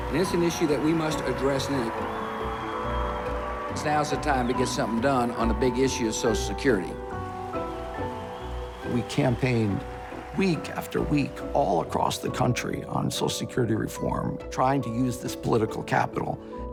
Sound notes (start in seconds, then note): 6.9 cheers